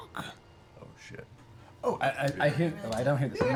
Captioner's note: quietly